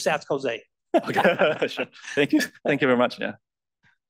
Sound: laugh

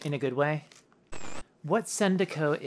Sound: static

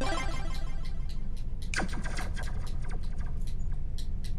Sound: video game noises

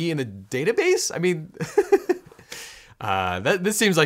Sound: laughs

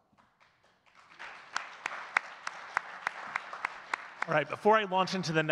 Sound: audience clapping

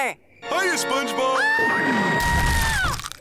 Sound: screaming

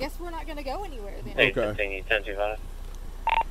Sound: radio chatter

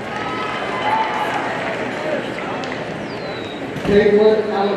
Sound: audience cheers and applauds

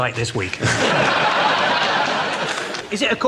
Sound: audience laughs

